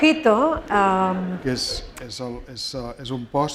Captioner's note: speaking spanish